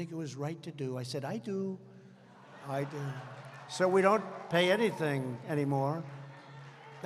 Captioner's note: laughter